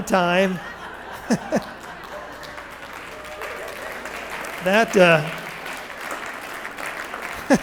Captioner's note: laughter and Applause